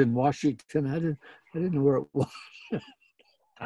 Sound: laughing

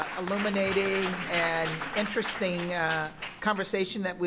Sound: applause

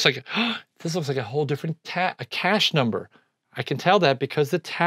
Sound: gasps

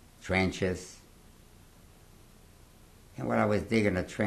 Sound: pauses for 3 seconds

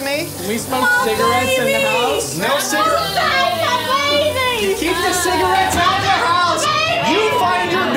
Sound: yelling

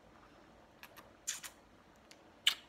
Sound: kiss sounds

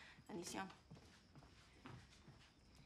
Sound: speaking Spanish; footsteps recede

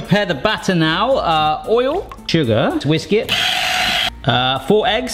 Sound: blender whirring

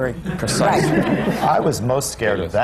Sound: laughter

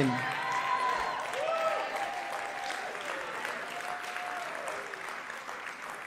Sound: audience cheering and clapping

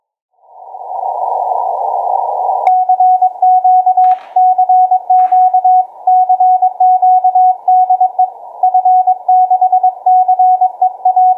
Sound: morse code

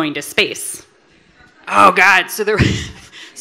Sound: laughs

